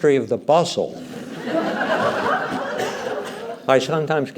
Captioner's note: laughter